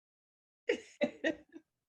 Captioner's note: laughter